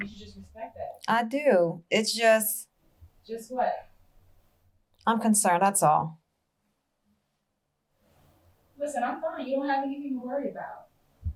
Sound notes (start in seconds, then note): none